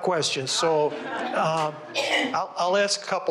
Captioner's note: audience laughs